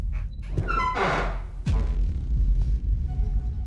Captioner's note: door creaking